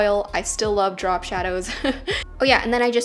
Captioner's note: laughs